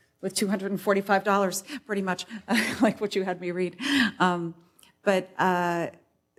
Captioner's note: laughs